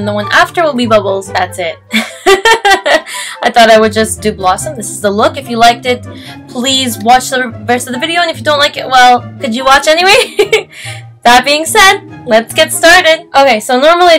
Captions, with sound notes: And then the one after will be Bubbles. Thats it *Goofy Laugh* I thought I would just do Blossom. This is the look. If you liked it Please watch the rest of the video and if you don't like it well... Could watch anyway? *nervous laugh* That being said Let's get started . Ok so normally